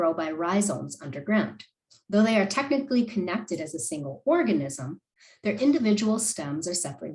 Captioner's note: click